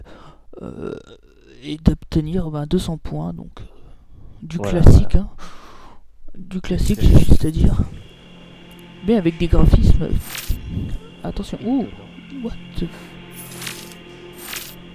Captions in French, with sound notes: et d'obtenir 200 points donc du classique mais avec des graphismes... *cri d'étonnement* mais avec des graphismes... *cri d'étonnement* mais avec des graphismes... *cri d'étonnement*